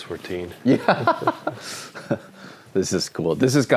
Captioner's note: laughs